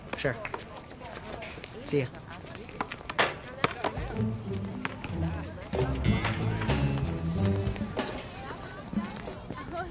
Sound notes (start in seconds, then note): 3.1 basketball bouncing; 4.2 whimsical music